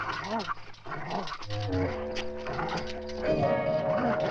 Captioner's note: dog growling